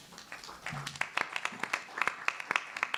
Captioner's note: clapping